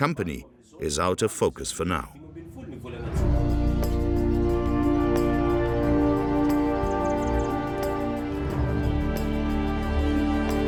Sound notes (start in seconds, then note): 2.9 dramatic orchestral music; 6.5 birds twittering